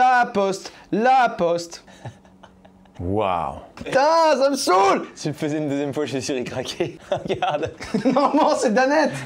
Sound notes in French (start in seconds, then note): 1.9 rire